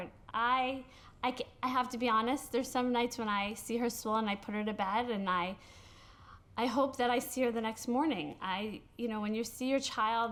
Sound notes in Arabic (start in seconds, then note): none